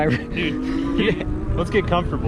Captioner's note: electric motor revs up